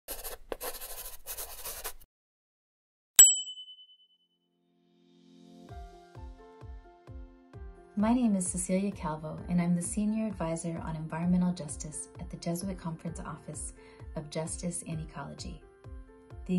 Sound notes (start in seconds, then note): 0.0 pencil scrawls; 3.1 bell chimes